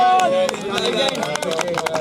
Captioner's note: applause